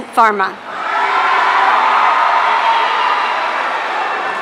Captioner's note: audience cheering